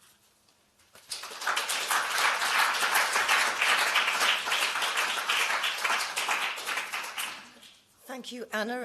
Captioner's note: applause